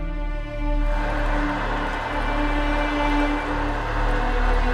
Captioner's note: water running